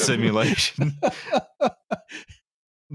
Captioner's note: laughs; laughter